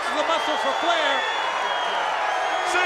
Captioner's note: crowd cheering